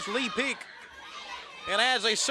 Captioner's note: crowd cheering